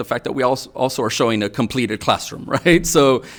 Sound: chuckles

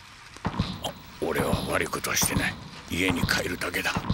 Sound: badump

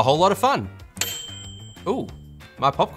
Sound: timer dings

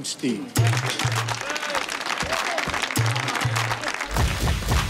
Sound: hands clapping; team cheering; bold music

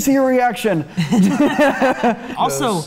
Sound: group Laughs

